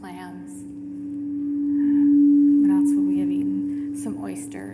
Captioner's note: feedback blaring